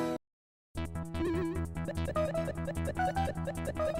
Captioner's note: electronic sounds; jazzy electronica music